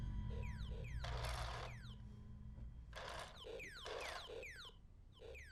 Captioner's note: toy laser gun firing